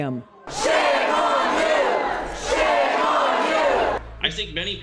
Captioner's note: chanting